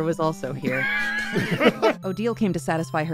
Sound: laughter

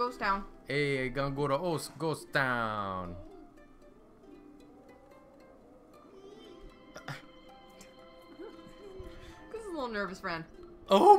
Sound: Italian accent

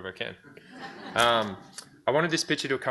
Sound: audience laughs

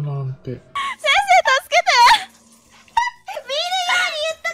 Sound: laughing

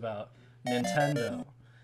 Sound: video game ambience

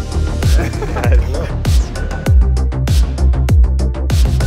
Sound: upbeat music; people laughing

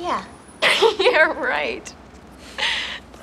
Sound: Abby chuckles

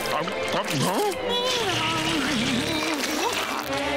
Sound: humming

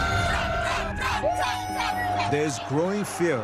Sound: crowd

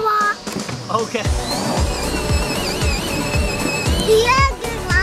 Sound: tires squealing

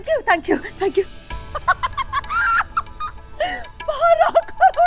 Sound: laughs

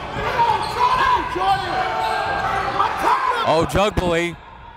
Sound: cheering and yelling

